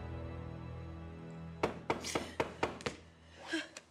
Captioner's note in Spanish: toques en la puerta